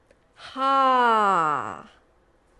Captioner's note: sighs